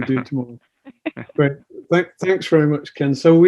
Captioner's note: laughs